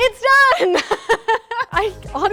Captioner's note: laughs